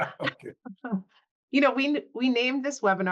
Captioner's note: chuckles